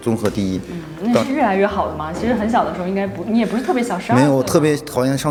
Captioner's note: female voice